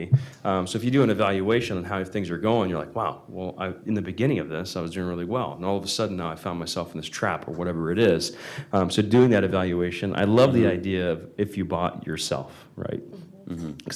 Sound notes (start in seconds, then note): none